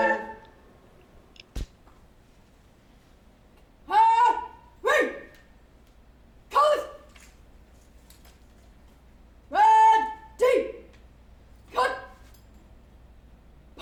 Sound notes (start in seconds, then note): 1.6 shouted commands